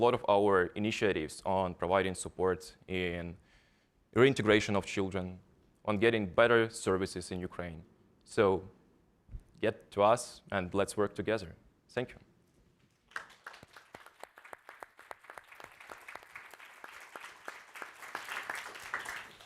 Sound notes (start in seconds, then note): 12.9 all applauding